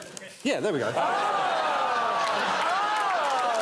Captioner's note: all exclaiming